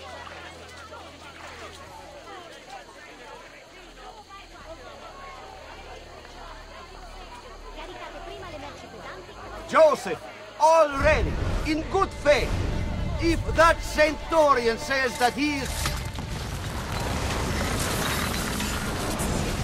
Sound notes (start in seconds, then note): 15.5 hidden blade stabbing sound